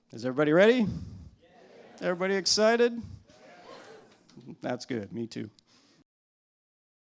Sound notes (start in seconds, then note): 3.4 cheering